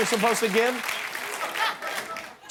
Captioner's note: cheers and applause